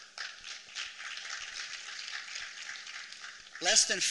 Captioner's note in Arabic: تصفيق